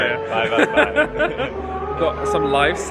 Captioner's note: laughs